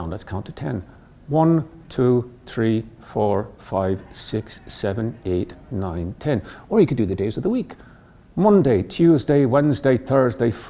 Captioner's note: in Irish accent